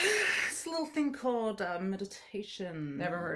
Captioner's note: sighing